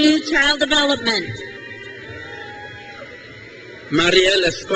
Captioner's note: crowd cheers